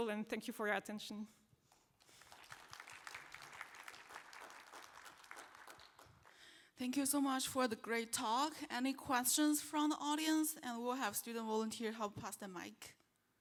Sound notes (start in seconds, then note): 2.0 applause